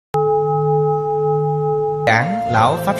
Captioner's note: hum